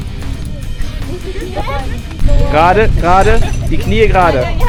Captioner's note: speaking German